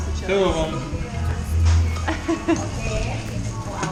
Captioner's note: laughing